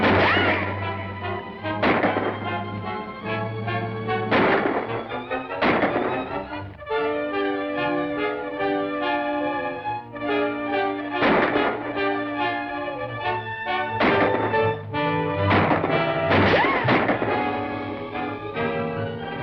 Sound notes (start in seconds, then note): 6.6 dramatic music; 11.1 gunshots